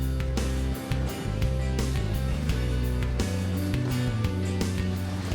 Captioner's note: fabric ruffles